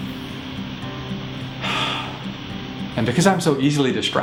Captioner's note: breathes